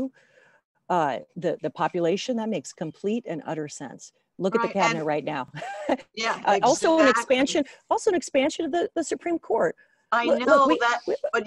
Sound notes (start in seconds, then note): 7.6 laughs